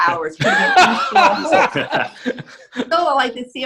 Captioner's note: laughing